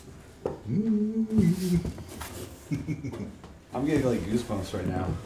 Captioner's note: Jerry hums